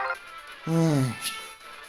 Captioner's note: sigh